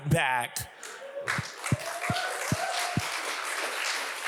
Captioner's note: audience applauds